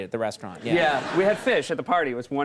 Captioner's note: audience laughs